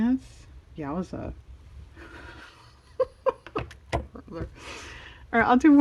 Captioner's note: laughs